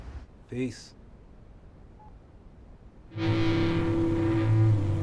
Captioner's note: phone beeping; suspenseful guitar music